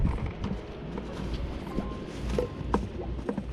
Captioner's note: The sound of fish flapping in the bucket